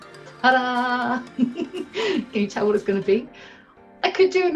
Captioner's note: chuckles